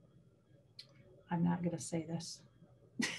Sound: laughs

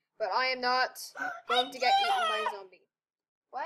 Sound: gasp

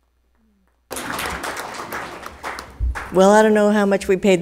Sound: attendees applauding

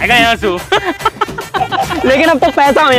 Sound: laughing

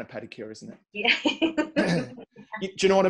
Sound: laughs

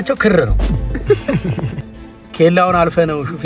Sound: laughter

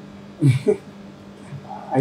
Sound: chuckles

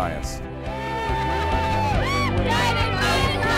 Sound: people cheering

